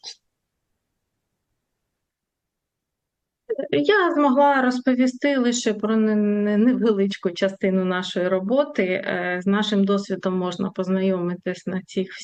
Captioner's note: foreign language